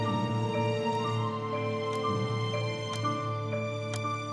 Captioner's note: clock ticking